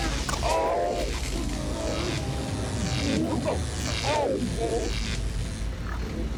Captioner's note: slow, distorted groaning